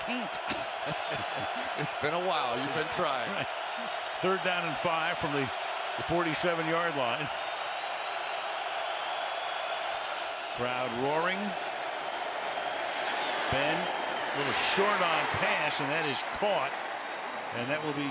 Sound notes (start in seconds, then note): 0.1 laughs; 7.9 crowd cheering